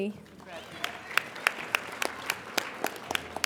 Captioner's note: applauding